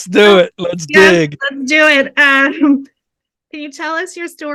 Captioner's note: laughing